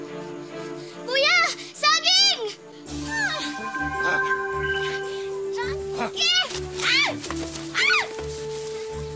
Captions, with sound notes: Isagani! A banana! Junkie. [screams]